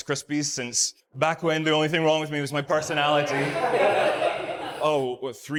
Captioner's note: audience laughs